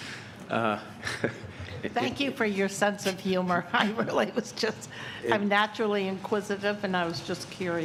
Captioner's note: laughter